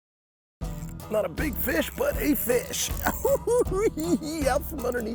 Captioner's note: cackling